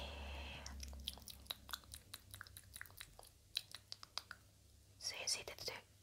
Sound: mouth sounds

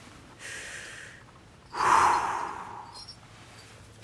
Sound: deep breath

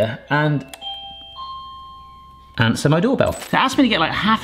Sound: doorbell rings

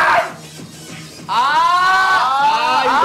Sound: stamping feet

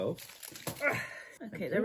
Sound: cracking of the chocolate noise

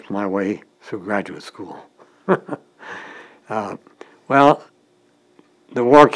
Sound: chuckle

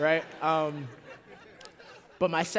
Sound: laughter

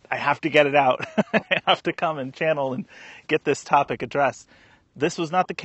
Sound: laughs

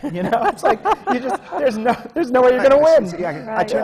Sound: laughter from the panel

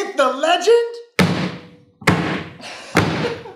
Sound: table banging; laughs

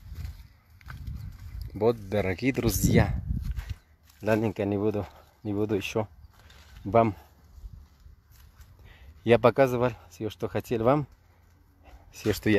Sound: repeats the invitation to a live broadcast in Russian

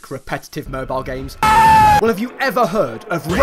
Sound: screaming

